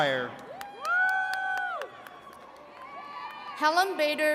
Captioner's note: attendees cheering and clapping